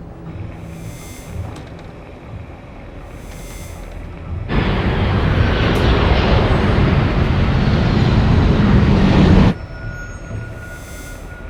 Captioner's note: click; beeping radar